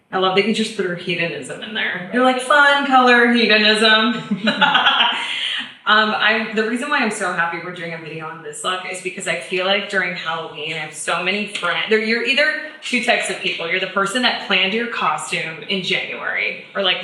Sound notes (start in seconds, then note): 4.1 laughs; 4.3 chuckles